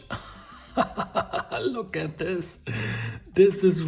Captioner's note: laughing